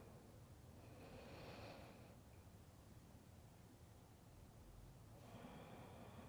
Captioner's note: breathing